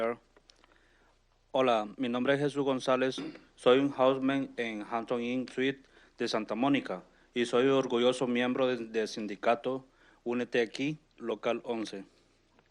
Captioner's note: speaking in Spanish